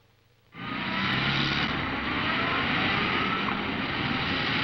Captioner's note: traffic passing